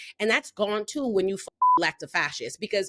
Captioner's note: beep